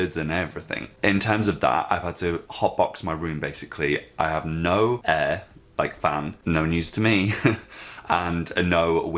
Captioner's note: laughs